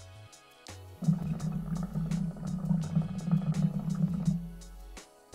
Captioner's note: hookah sound